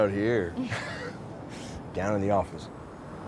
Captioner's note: laughs